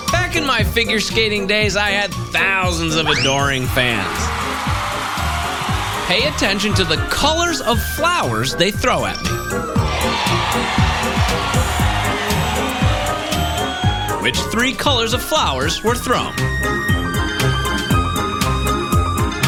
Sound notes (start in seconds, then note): 3.4 cheering; 11.7 cheering